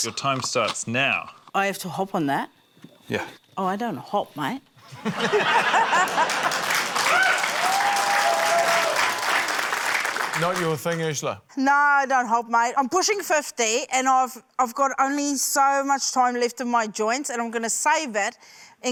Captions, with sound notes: - 'Your time starts now.' - I have to hop on that? - Yeah. - Oh, I don't hop, mate. (LAUGHTER) (CHEERING, APPLAUSE) - Not your thing, Urzila? - No, I don't hop, mate. I'm pushing 50, and I've got only so much time left in my joints and I'm going to save it